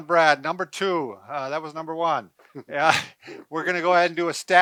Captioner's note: laughs